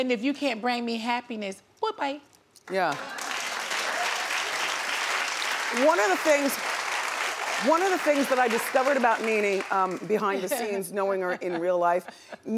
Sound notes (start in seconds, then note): 2.9 audience cheers